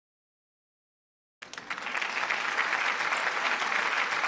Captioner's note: applause